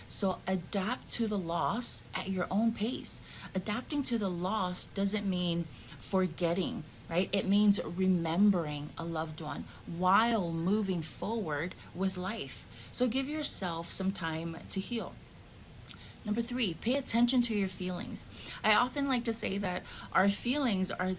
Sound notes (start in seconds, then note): none